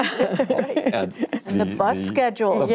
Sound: laughter

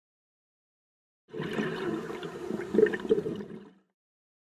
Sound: underwater exhalation

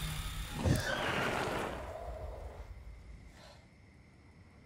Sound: tires screech

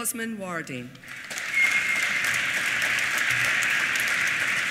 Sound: applause

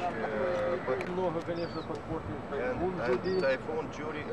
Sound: non-english speech

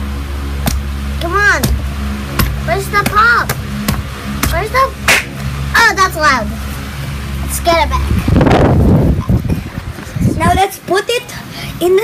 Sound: pop

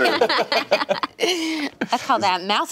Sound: laughing

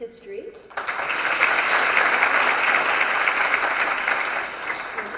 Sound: applause

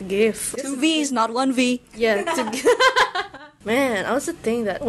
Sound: gyahahahahaha

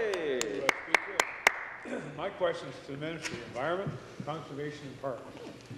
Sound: some Applause

